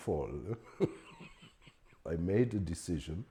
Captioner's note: laughs